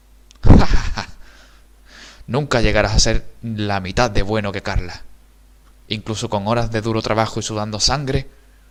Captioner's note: laughs